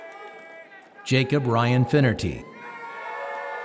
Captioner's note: applause